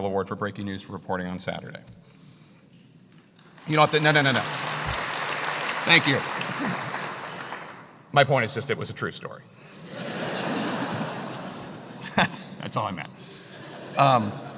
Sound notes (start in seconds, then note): 3.4 applause; 10.0 laugh